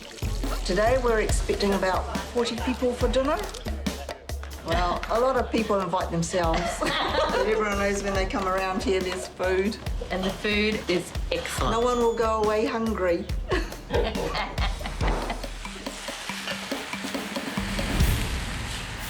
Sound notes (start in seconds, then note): 0.0 chuckles; 0.8 giggles; 6.4 both laugh; 16.1 both chuckle